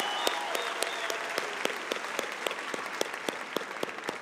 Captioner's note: cheering and applause